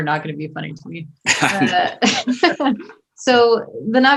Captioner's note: all laughing